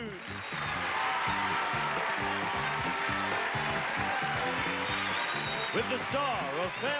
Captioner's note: audience applauds